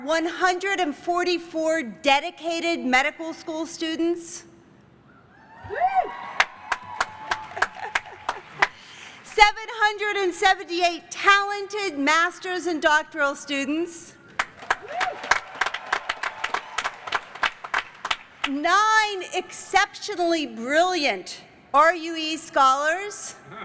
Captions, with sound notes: 144 dedicated medical school students. [CHEERS AND APPLAUSE] [CHUCKLING] 778 talented master's and doctoral students. [CHEERS AND APPLAUSE] Nine exceptionally brilliant RUE scholars.